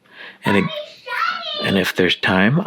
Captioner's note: shouting